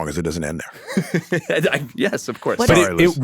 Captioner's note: laughs